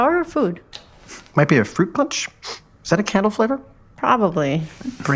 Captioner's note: sniff